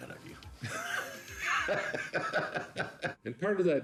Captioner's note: laughing